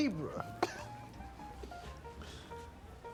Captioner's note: chuckles